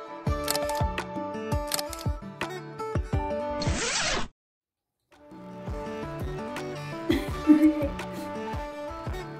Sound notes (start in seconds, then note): 0.4 camera Click; 0.4 camera Click #2